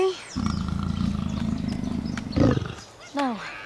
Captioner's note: lion growling